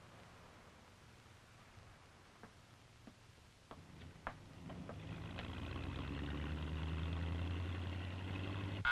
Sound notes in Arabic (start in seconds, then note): 5.3 هدير السيارة